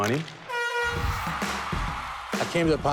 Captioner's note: crowd cheering